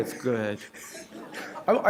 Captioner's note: laughter